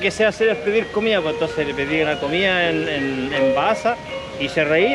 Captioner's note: Indonesian language